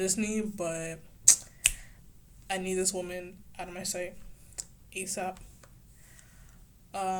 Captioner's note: snaps